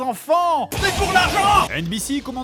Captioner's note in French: crié